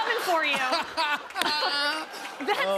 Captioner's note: laughs